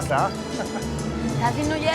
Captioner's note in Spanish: Risas